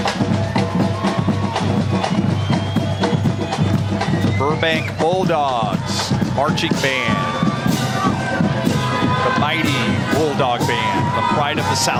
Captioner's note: cheering